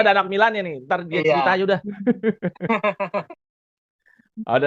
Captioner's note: laughter